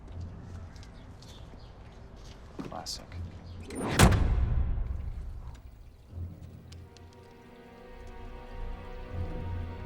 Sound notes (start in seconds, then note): 3.9 trunk slams; 7.1 dramatic music